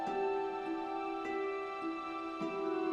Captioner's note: none